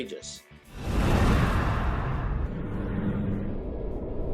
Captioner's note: whoosh